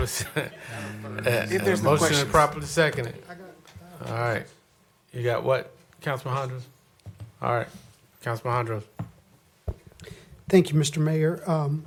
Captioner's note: laughter